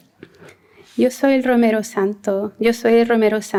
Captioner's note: non-english speech